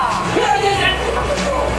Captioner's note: shouts